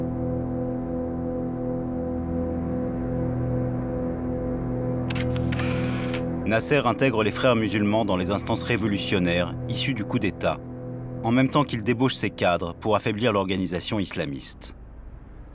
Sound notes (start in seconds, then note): 5.1 camera click